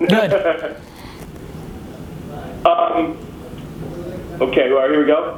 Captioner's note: laughs